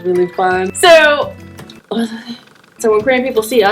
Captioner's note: mutters